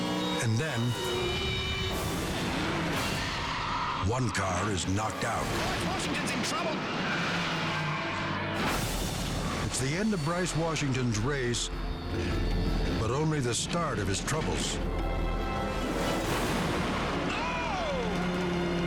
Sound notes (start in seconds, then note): 3.1 tires screeching